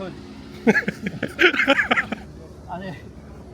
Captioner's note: chuckles